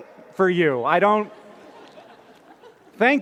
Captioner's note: laughter